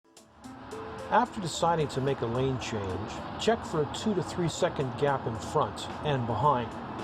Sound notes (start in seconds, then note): 1.0 voiceover